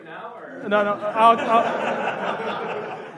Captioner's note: laughs